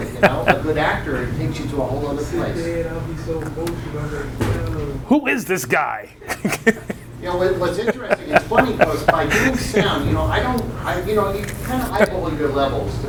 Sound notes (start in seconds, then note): 5.3 laughing